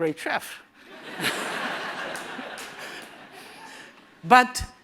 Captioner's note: laughter